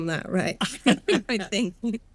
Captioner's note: laughing